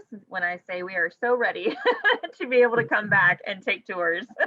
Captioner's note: laughs; laughs